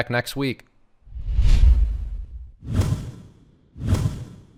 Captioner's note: swoosh